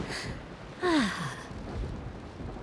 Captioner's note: grunting; sighs